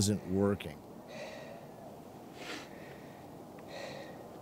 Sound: exhales

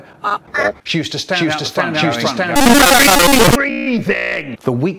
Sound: earrape

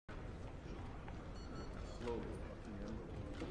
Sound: cameras click

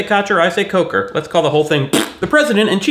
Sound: fart noise

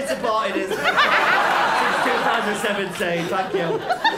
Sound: laughter

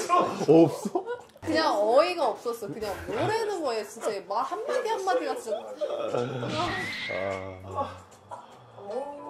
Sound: ugh

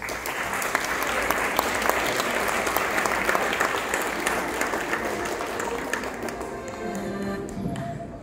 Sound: applause

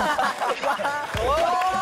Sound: laughing

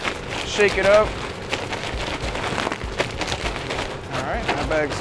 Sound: rustling

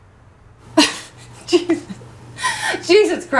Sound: laughs

